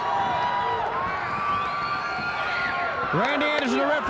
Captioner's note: crowd cheering